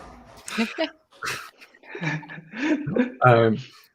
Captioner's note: all laugh